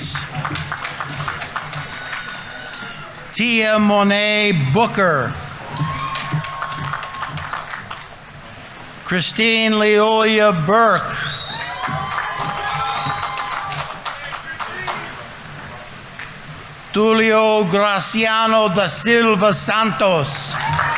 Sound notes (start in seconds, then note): 0.1 audience applauding; 5.8 audience applauding; 5.8 audience members cheering; 11.4 audience applauding; 11.4 audience members cheering